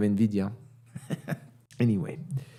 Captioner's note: chuckles